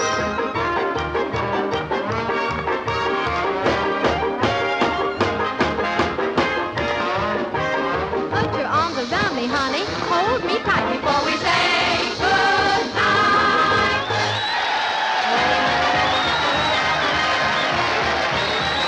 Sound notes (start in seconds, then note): 14.4 applause; 15.3 playful music